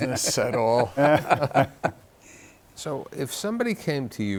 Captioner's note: guests laughing